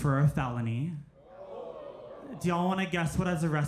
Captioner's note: crowd